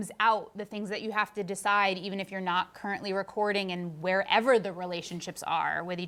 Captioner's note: none